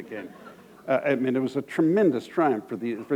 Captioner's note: chuckle